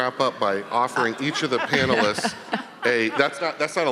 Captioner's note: panelists laughing